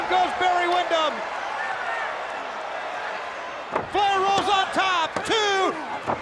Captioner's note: applause